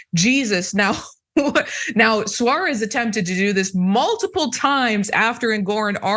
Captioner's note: laugh